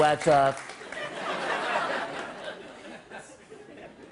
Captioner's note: laughter